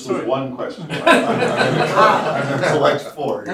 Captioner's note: laughter